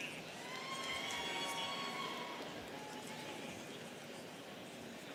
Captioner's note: students cheering